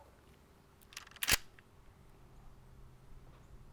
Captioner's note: gun snaps